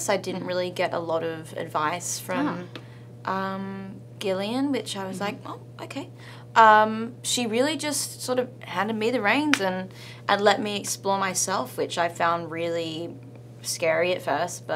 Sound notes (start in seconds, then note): none